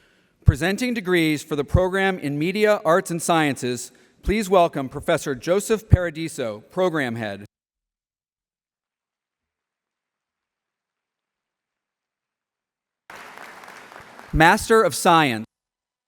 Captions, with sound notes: Presenting degrees for the program in Media Arts and Sciences, please welcome Professor Joseph Paradiso, Program Head. [APPLAUSE] Master of Science.